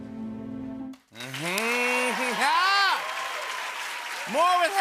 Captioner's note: cheers and applause